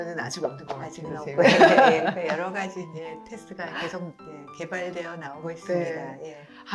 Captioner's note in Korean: 웃음